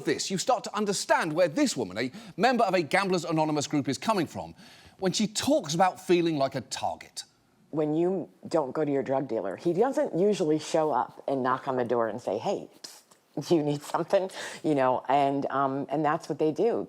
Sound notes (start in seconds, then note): none